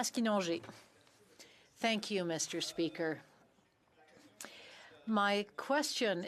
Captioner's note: speaking French